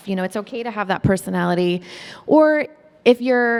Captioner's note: none